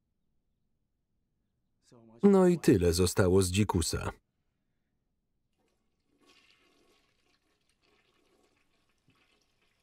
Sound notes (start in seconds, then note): 5.9 toilet flushing